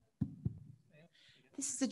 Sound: mic thuds

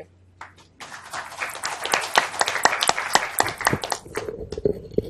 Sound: applause

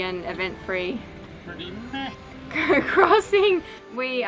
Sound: laughs

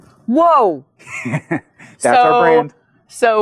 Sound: chuckles

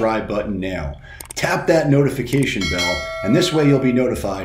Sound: bell ringing

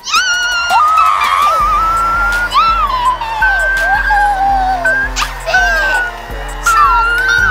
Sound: music and high pitch cheering

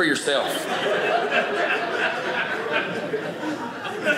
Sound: audience laughing

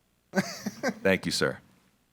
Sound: board member chuckles

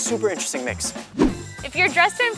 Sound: dramatic wooshing

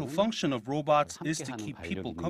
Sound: Korean

